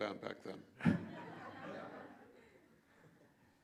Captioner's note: laughter